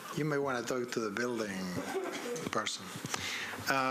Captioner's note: laughter